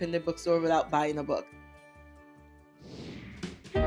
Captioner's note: screen whooshing; lively music